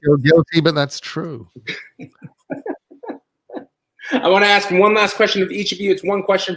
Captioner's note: laugh